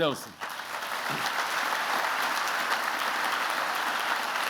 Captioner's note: applause